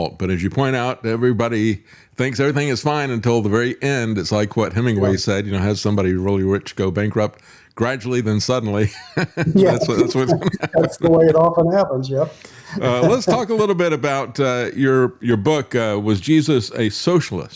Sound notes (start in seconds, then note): 8.9 laughing